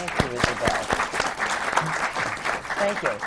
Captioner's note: applause